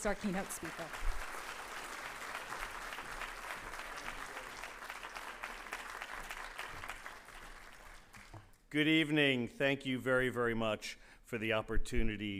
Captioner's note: applause